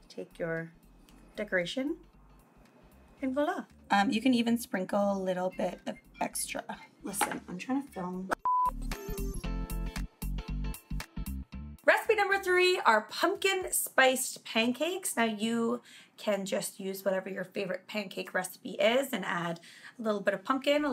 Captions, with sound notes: Take your decoration, and voila. You can sprinkle even a little bit of extra. (phone ringing) Listen I'm tryna film. (upbeat music) Recipe number three are pumpkin spice pancakes. Now you can just use whatever your favorite pancake recipe is and add a little bit of pumpkin,